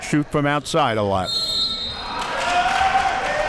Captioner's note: whistle blowing; audience applauding and cheering